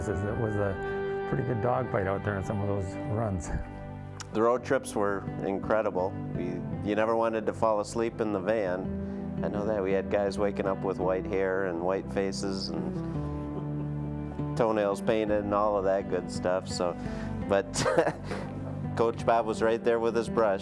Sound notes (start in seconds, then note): 13.5 all chuckling; 17.7 laughing